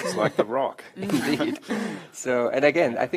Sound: laughter

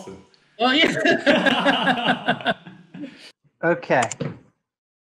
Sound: laughing

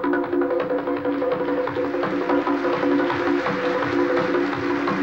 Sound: applause

